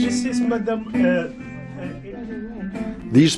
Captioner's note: background talking